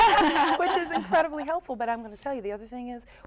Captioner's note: laughter